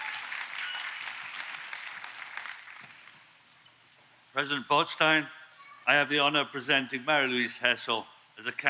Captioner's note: applause